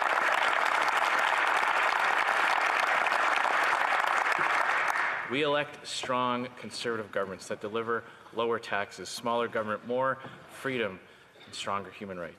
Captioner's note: some Applause